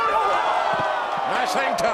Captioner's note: audience groans